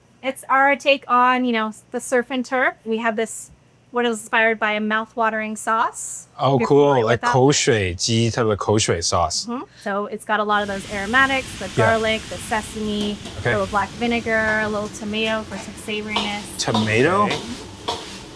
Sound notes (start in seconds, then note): 7.5 speaking Cantonese